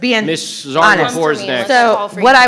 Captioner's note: group chattering